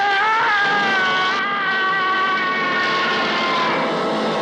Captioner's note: screaming